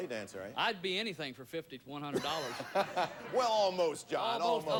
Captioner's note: audience laughing